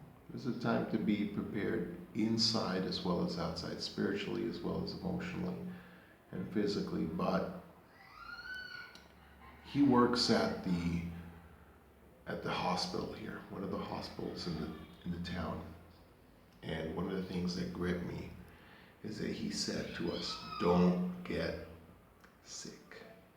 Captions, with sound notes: this is a time to be prepared inside as well as outside, spiritually as well as emotionally and physically but (scream) he works at the at the hospital here one of the hospitals in the in the town and one of the things that gripped me is that he said to us (screaming) don't get sick